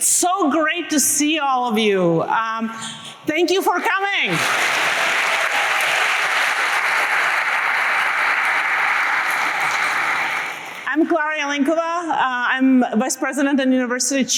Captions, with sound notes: It's so great to see all of you. Thank you for coming. [APPLAUSE] I'm Klara Jelinkova. I'm vice president and university